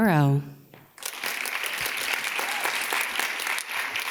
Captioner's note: audience claps